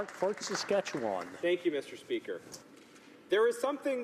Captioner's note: applause